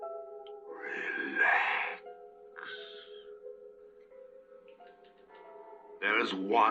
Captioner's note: sighs